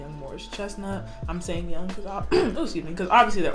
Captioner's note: clears throat